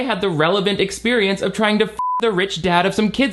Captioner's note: beep